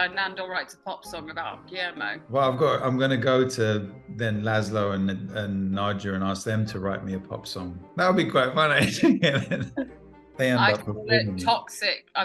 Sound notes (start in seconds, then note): 8.0 laughs